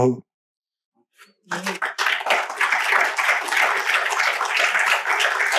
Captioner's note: applause